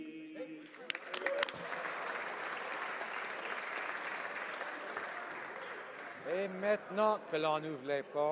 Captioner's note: applause